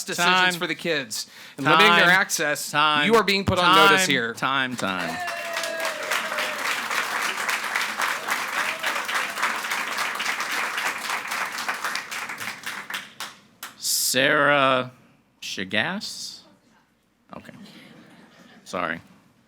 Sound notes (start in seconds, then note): 4.8 audience cheering and clapping